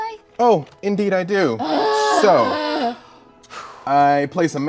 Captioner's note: groans